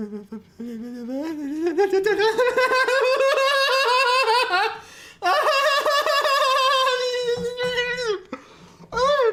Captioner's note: mindless babbling